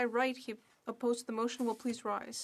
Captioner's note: speaking French